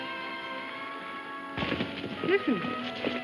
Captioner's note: horse hooves pounding